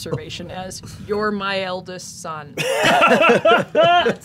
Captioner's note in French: rires